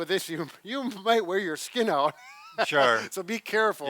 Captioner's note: chuckles